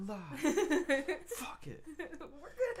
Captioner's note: laughing